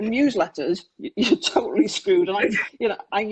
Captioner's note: laughs